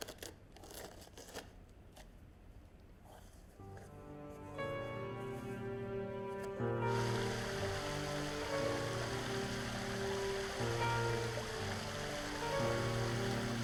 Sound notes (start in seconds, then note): 7.2 water running